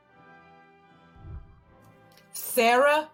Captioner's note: whooshing